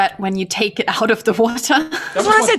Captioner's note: laughs